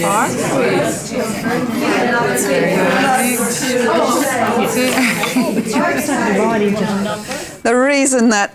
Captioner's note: participant chatter